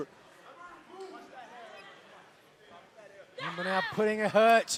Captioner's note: crowd chatter